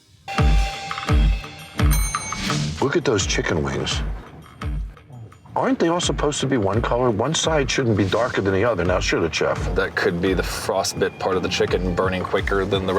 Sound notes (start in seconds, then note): 0.3 bell dings; 0.6 suspenseful music